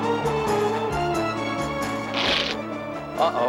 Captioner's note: cloth ripping